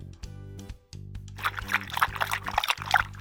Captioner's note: drinking sound